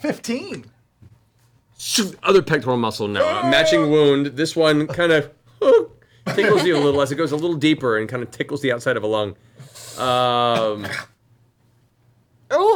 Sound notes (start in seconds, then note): 3.2 yelps; 6.0 yelps